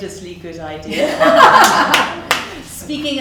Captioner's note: audience laughs